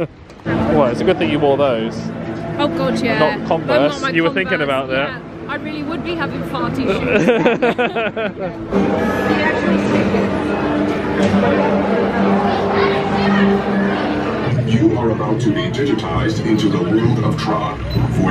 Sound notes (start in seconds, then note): 6.8 both laugh; 11.1 lively background chatter